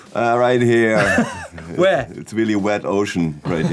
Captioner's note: laughs